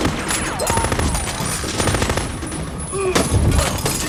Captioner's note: man screams; man grunts